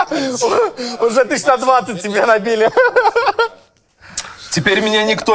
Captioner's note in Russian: смеется